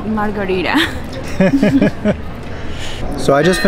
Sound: both laugh

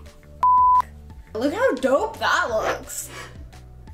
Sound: beep

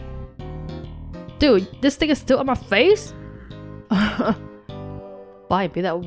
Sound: chuckles

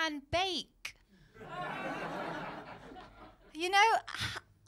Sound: laughter

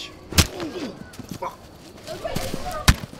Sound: fist thuds

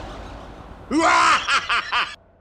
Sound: laughing

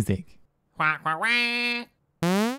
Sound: commanding squawk

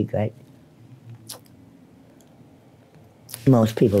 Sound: tongue smacks loudly

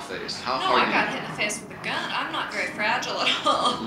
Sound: voiceover

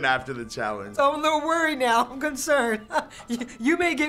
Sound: laughs

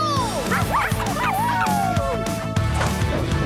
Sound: barking

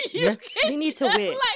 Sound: laughter

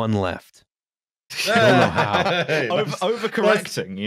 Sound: everybody laughing

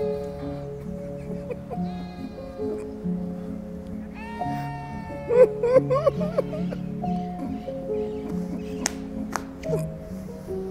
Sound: he's laughing; he's crying

